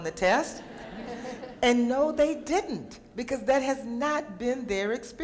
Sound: laughing

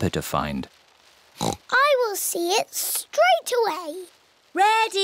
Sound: oinks

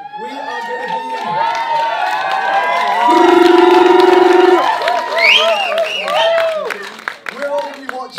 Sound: cheers, applause

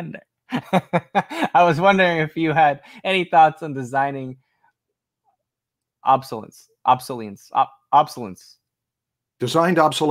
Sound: laughs

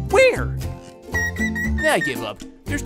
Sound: chirping

